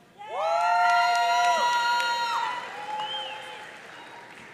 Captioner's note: audience cheering